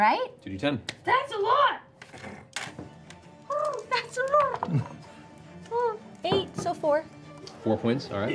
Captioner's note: coo